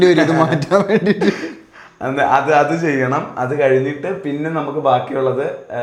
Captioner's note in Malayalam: പൊട്ടിച്ചിരി